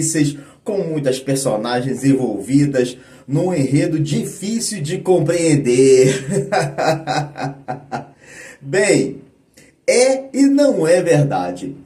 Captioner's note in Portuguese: risadas